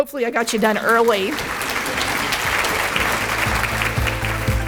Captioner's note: clapping; upbeat music